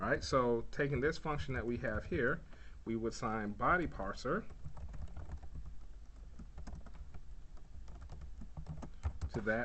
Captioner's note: typing sounds